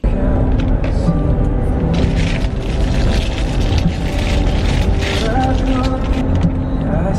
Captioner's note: plastic crinkling